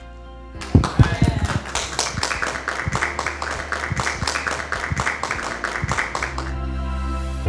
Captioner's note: applause